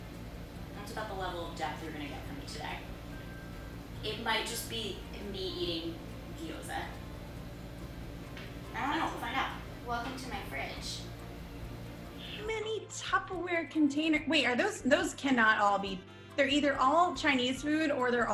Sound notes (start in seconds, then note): none